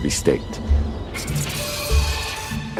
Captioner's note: chittering